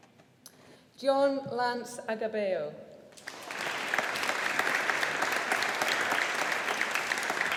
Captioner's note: audience applauding